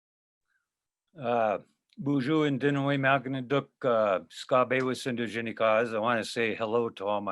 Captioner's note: speaking in foreign language